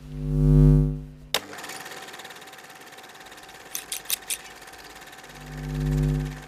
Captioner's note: film reeling; film vibrating